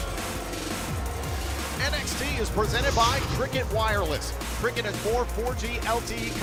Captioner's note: cheers and applause